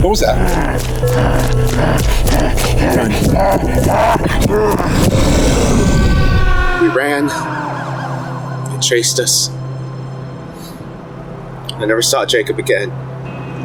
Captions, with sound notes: What was that? - Run. We ran. (siren wails) It chased us. I never saw Jacob again.